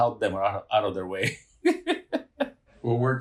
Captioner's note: laughing